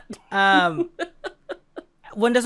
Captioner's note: chuckles